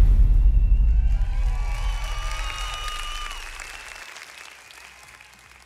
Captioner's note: audience cheering